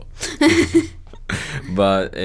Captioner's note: laughs